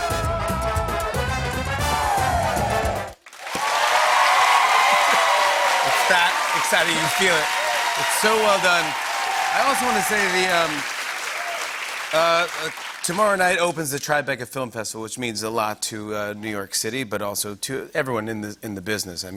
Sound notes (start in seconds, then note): 3.3 cheers and applause